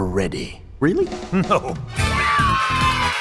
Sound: laughs

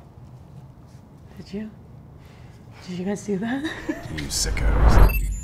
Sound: laughing

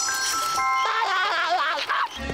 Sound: laughing

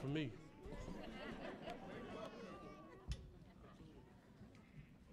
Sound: audience laughs

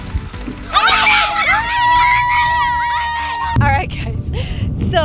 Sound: girls celebrate

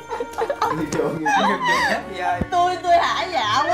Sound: laugh

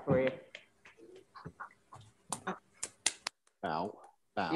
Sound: members clapping

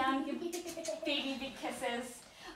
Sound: kisses

